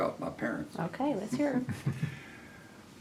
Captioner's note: laughs